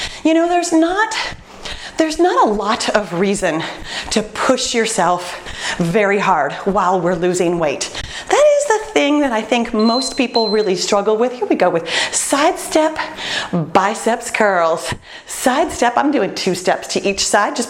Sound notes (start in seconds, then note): 9.7 beeping